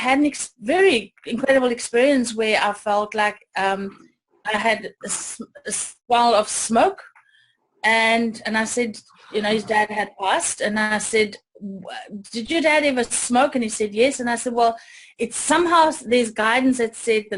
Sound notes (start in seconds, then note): 3.9 stammering